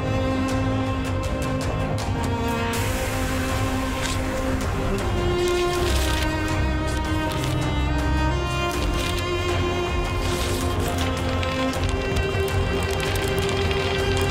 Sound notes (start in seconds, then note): 0.1 dramatic music; 0.1 pages rustling; 8.5 dramatic music continues; 8.5 pages rustling